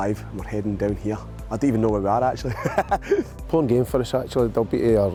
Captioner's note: laughs